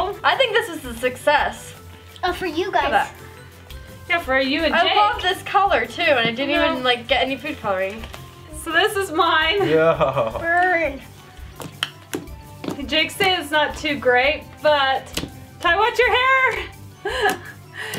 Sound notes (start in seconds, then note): 9.6 laughter